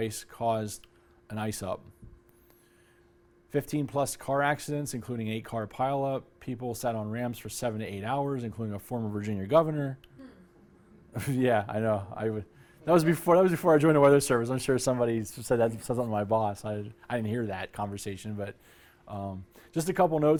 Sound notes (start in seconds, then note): 11.1 laughter